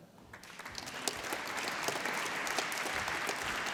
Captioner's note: applause